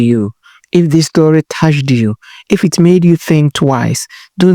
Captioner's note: voiceover